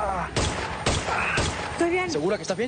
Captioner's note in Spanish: Disparos